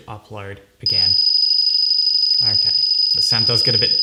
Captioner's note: alarm ringing